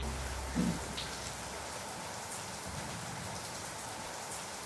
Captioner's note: rain drops falling